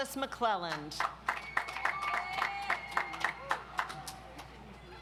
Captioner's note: audience applauds